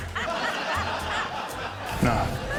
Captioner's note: laughter